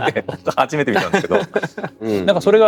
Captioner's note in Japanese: 笑い